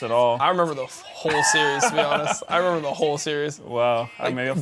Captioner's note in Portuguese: risos